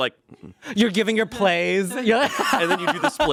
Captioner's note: laughs